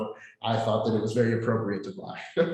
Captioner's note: laughs